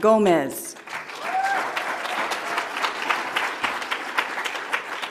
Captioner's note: audience applauds